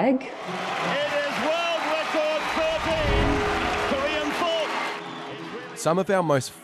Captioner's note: crowd Cheering